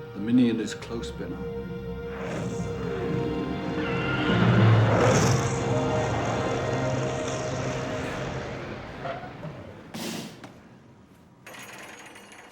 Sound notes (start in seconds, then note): 4.1 roars and snarls; 4.2 wild animal squawks